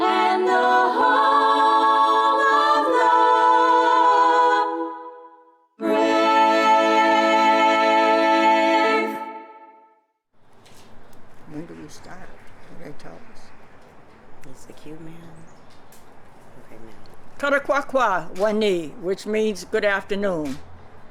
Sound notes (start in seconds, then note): 12.1 non-english speech